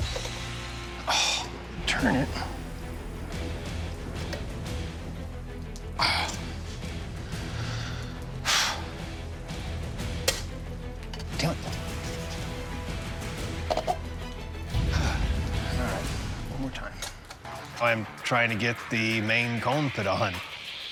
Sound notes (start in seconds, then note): 1.0 sighing; 6.0 grunting